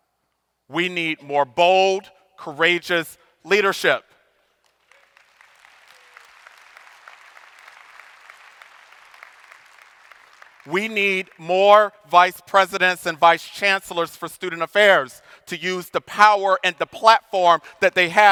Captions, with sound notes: We need more bold, courageous leadership. (audience applauding) We need more vice presidents and vice chancellors for student affairs to use the power and the platform that they have